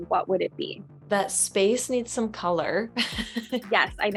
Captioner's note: chuckles